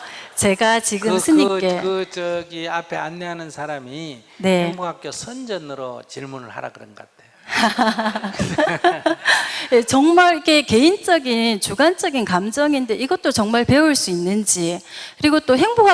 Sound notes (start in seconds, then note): 7.5 questioner/ Laughter